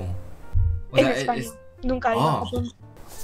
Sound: Spanish

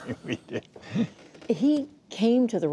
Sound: laughter

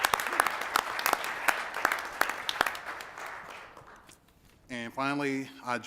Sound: applause

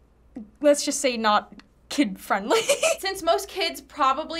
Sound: laughs

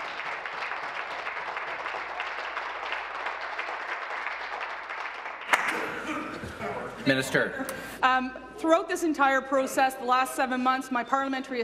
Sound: applause

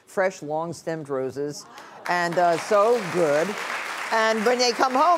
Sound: audience clapping

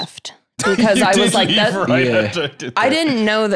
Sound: laughing

